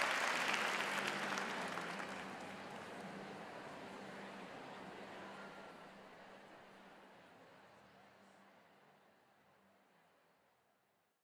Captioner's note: applause